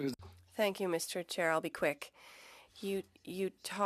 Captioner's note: speaking French